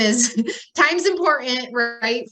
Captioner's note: laughs